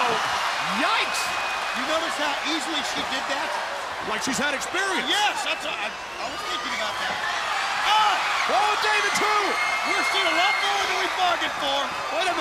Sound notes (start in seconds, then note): 8.8 crowd cheering